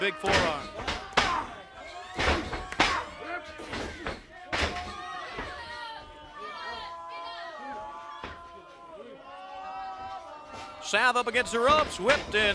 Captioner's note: crowd chatter